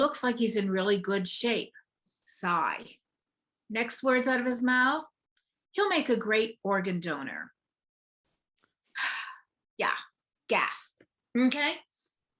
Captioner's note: sigh